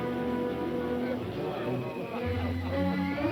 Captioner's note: men chattering; lighthearted music